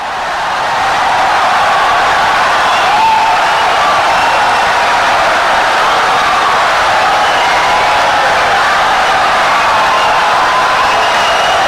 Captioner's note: wild applause and cheering for 17 seconds